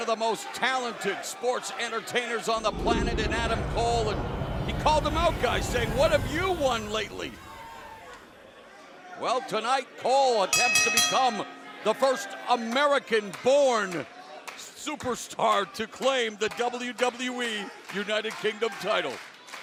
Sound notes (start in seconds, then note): 10.5 bell ringing; 19.4 crowd cheering